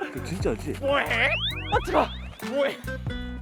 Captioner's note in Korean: 낑낑